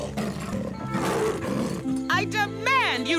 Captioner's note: snarling